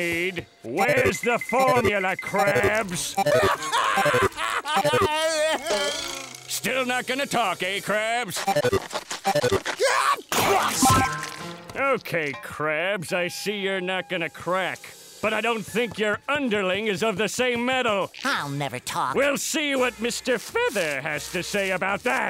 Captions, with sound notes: Where's the formula, Krabs? [laughing] Still not gonna talk, eh, Krabs? [sneezing] Okay, Krabs, I see you're not gonna crack. But I don't think your underling is of the same metal. I'll never talk. We'll see what Mister Feather has to say about that.